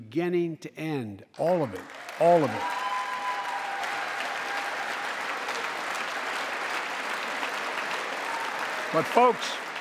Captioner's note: applause